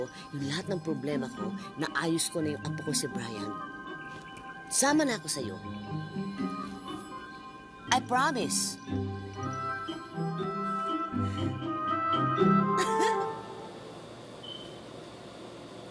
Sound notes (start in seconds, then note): 12.7 Ester giggles